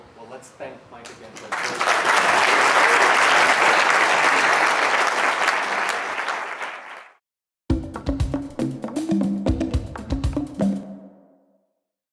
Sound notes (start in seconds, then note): 1.0 applause; 7.7 upbeat music